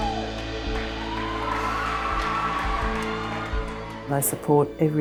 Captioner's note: kids cheering